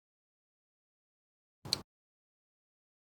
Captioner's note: click